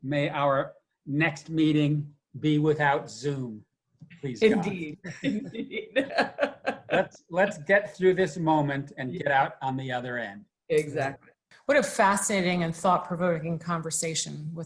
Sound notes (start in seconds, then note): 5.0 laughs